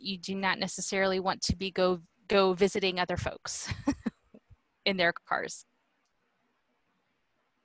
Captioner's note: laughter